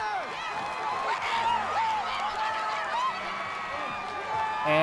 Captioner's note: crowd cheer